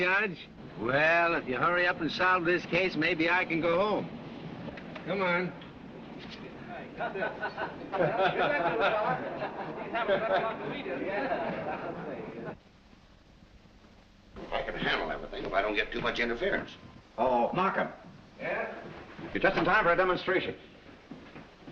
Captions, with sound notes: Well, if you hurry up and solve this case maybe I can go home! Come on. [reporters laughing] [indistinct chatter] I can handle everything if I don't get too much interference. - Oh, Markham? - 'Yeah.' You're just in time for a demonstration.